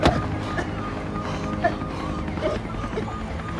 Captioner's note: gagging